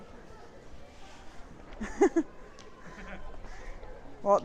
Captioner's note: laugh